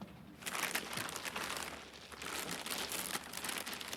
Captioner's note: bag rustling